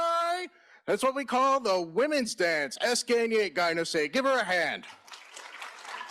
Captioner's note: in Native Language; applause